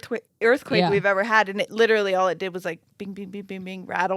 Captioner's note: imitates sound